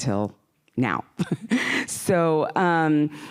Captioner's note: laughing